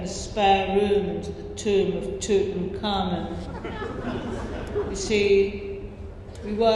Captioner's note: laughter